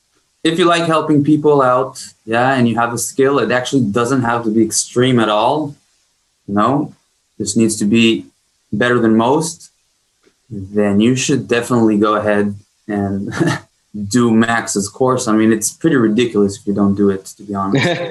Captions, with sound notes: if you like helping people out, yeah and you have a skill, it actually doesn't have to be extreme at all. No, this needs to be better than most. Then you should definitely go ahead and (chuckles) do Max's course. I mean, it's pretty ridiculous if you don't do it, to be honest.